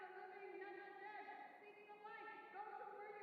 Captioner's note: Sylvia's voice in the distance